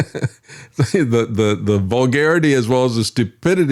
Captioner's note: laughing